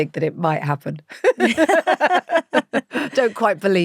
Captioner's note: both laughing